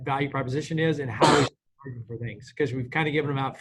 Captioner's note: coughs